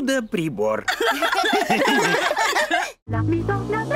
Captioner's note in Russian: Все смеются